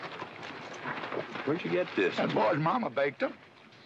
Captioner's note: none